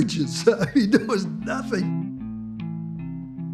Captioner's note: laughs